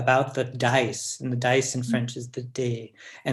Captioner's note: french